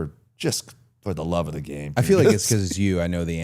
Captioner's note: laughs